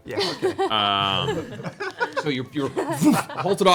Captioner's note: laughter